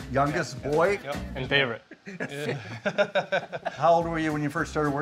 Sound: laughs

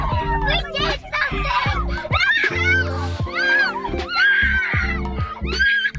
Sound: squeals excitedly

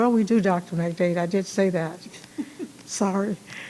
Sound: attendee chuckling

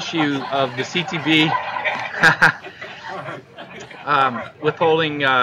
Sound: laughter

